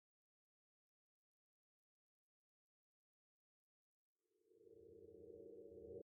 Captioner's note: silence conts